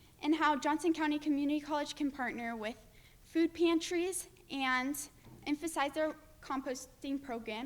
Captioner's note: none